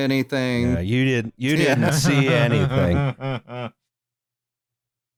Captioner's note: chuckles